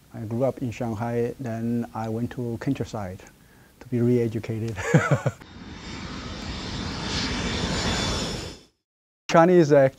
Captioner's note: laughs